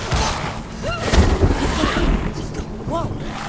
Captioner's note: thunder crashes